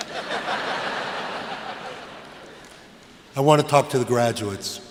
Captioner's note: laughter